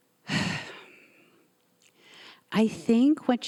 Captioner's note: sighing